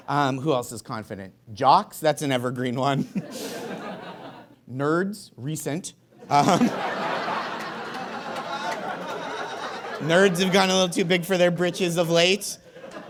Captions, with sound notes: Who else is confident? Jocks, that's an evergreen one. Nerds, recent. (audience laughs heartily) Nerds have gotten a little too big for their britches of late.